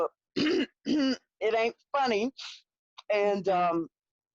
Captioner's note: clears throat